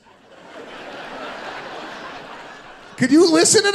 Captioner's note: audience laughing